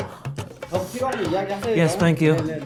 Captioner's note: speaks in Korean